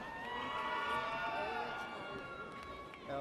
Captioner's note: audience cheers